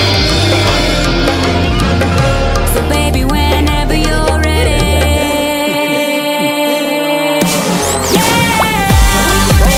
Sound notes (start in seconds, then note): 4.6 Bric & Brac Laugh